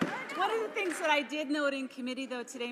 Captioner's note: laughing